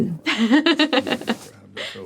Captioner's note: laughs